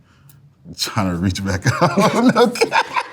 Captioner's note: laughs; both laughing